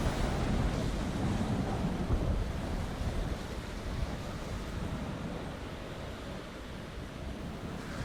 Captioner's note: wind blowing